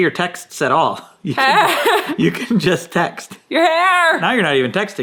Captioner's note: laughing